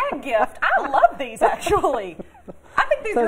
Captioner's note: laughter